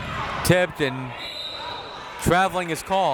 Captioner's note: whistle tweeting